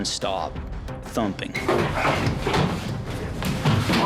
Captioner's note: thumping